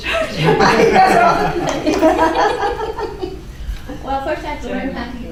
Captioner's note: laughing